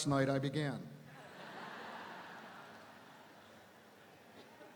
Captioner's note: audience laughing